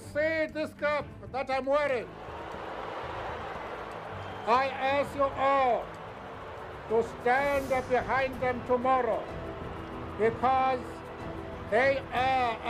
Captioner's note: boos